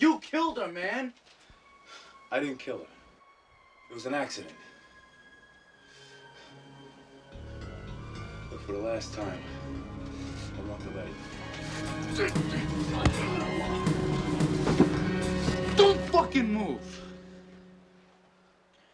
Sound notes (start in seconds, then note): 5.6 suspenseful music; 12.1 Hudson grunting